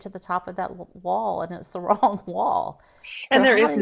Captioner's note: laughs